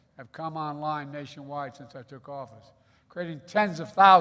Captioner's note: none